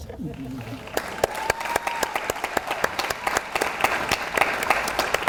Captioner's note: audience applauds